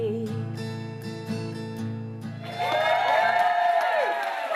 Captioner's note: crowd cheering